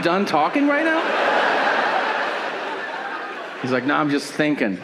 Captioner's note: audience laughing